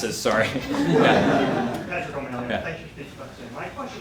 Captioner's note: audience laughing